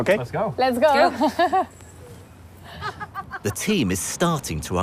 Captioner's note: laughing